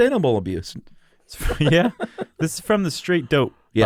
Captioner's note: both laugh